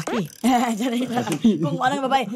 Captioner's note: chuckles